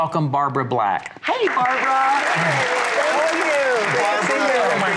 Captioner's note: applause